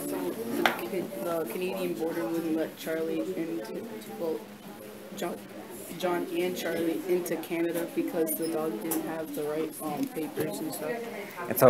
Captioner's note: students talking at tables